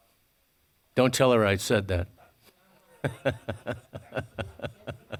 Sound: laughs

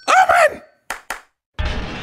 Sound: clap clap

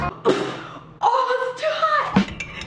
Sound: Liza spits

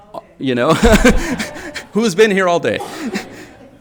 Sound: chuckles; audience laughing

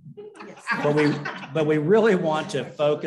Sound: laughter

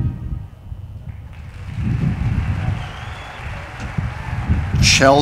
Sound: audience applauding

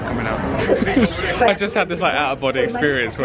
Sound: laughs

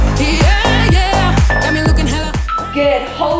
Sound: timer beeping

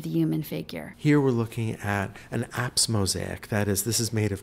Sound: voiceover

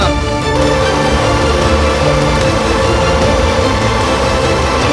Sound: engine chugging

